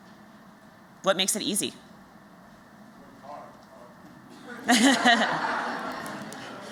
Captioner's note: laughter